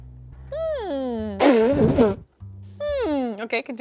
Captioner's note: snickers